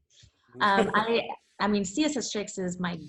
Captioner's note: laughs